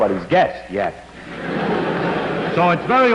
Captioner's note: laughter